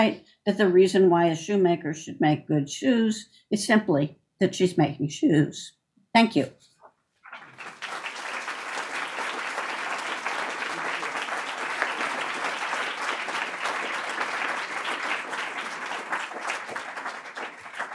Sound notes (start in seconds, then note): 7.6 audience applauds